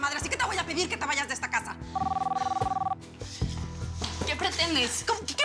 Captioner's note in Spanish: Suena el teléfono